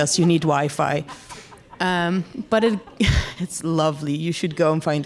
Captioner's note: audience laughs